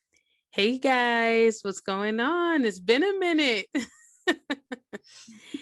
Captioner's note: giggles